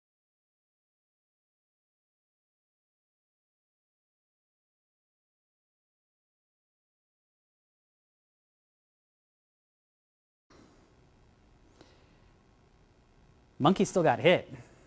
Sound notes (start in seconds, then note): none